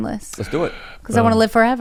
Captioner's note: gasps